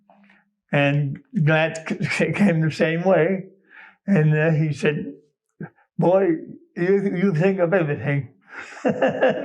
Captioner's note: laughs